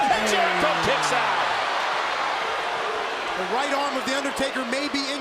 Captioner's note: applause